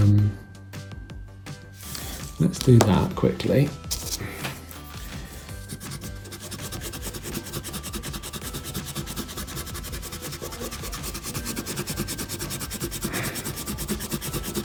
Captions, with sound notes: Let's do that quickly. (rubber rubbing)